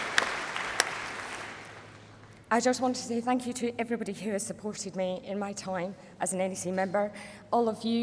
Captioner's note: applause